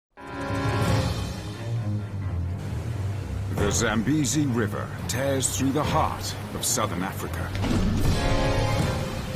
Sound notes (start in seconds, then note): 0.3 intense music; 0.3 water rushing